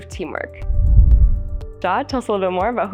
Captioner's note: screen whooshing